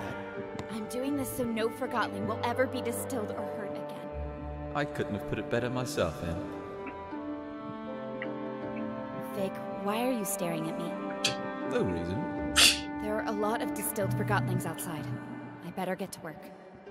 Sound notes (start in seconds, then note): 12.6 scoffs; 13.6 laughs